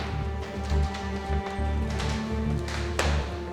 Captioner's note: eerie music; footsteps